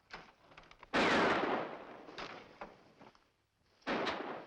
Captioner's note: gun firing; gun firing